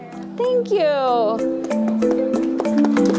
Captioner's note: applause